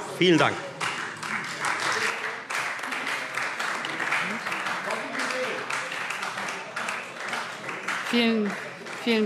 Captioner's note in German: Beifall Freie Demokraten